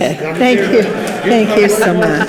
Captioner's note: participants laugh